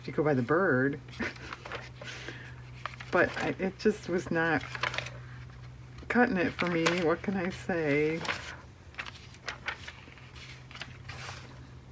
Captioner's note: laughs